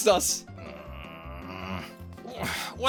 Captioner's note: groaning